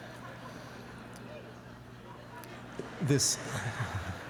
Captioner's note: laughter